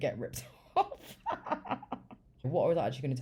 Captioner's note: laughs